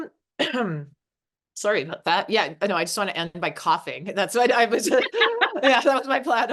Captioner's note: coughing